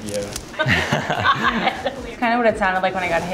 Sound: laughs

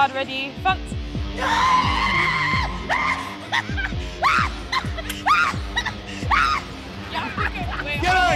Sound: screaming

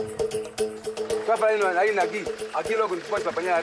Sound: Portuguese spoken audio

